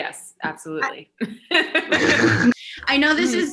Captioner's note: laughter